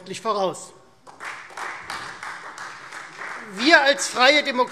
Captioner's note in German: Beifall Freie Demokraten